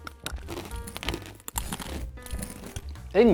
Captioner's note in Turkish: cam çatlıyor